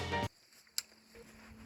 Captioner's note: upbeat music; clicking